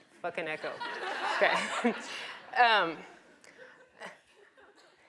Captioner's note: audience laughs